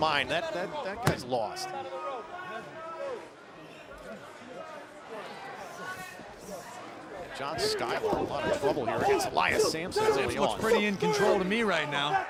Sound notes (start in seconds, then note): 1.6 crowd chatter